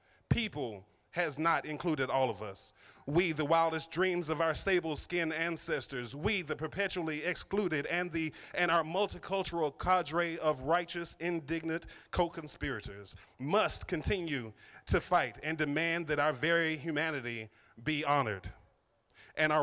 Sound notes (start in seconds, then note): none